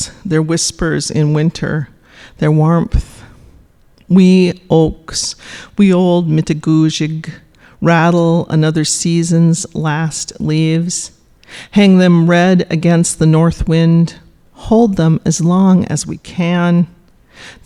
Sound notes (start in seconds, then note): 5.9 speaking Ojibwe